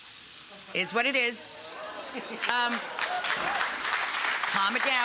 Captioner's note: audience laughs and applauds